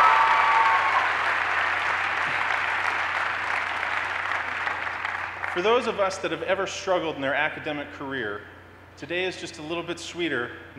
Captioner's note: cheers and applause